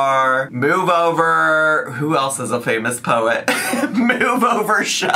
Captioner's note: laughs